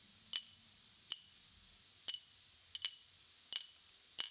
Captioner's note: metal clicking